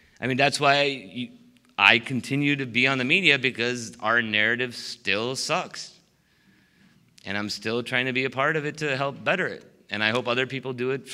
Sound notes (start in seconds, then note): none